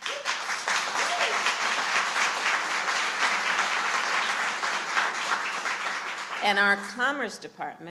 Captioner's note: applause